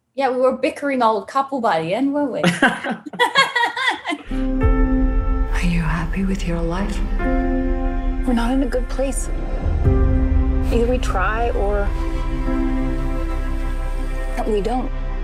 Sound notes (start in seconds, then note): 2.4 chuckling; 4.5 dramatic music